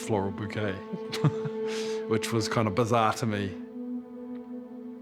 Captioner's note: chuckles